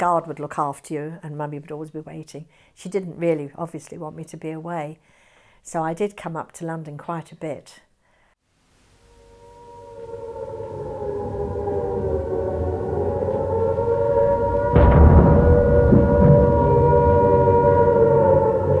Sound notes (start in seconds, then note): 10.4 sirens wailing; 14.7 bombs exploding